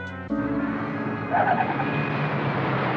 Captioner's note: tires screeching